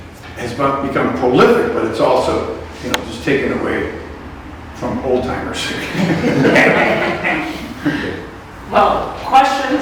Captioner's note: laughter